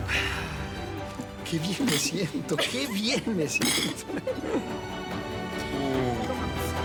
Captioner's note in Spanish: Risas